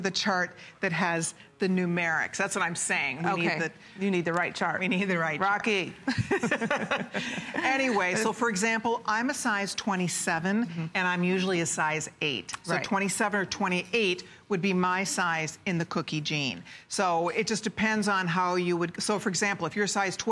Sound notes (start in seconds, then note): 6.0 laughter